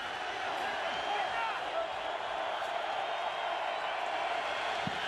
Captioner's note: crowd cheering